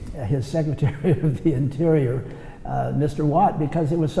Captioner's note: laughs